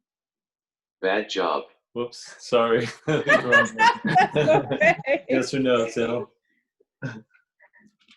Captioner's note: laughter